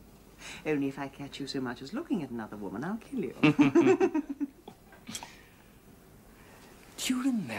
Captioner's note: they laugh